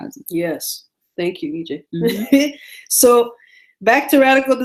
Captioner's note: laughs